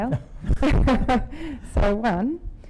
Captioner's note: laughing